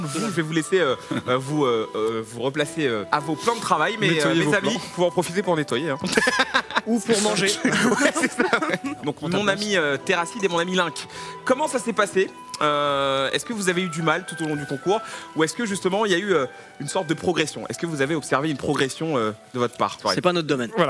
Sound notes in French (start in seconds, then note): 6.0 rires